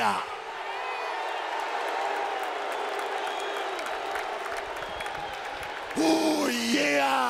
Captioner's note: crowd cheering